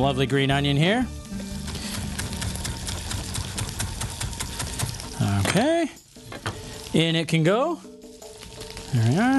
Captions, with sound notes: And we've got some lovely green onion here. (chopping) Okay.